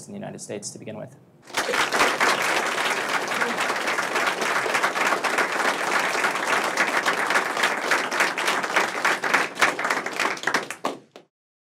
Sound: applause

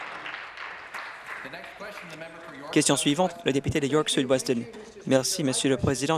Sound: applause

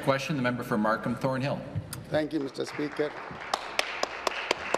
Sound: applause

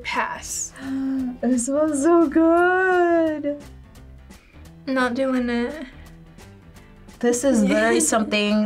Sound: gasps

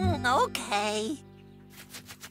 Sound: scratching

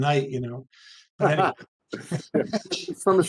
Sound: speaking faintly; laughing

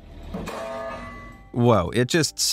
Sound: steel snaps

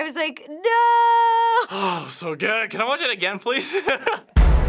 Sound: laughs; dramatic chord

